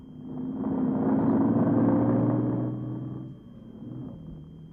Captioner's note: engine revving